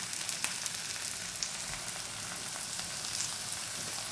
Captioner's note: pan sizzling